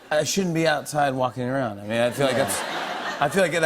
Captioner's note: laughter